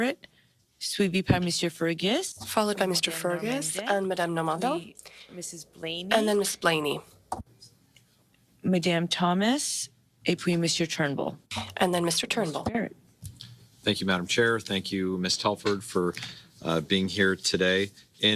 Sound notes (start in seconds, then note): 7.7 speaking French